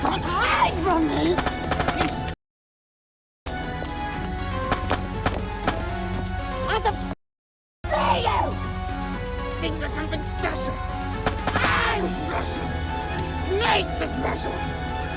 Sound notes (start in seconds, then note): 1.3 gun firing; 3.5 gentle upbeat music